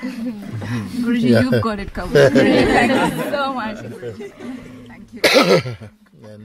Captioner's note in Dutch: gelach